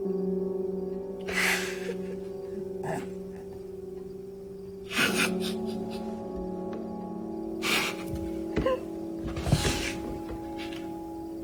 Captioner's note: June laughing